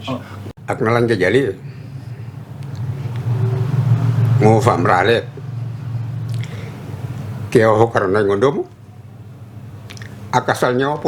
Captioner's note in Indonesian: berbicara dalam bahasa Banda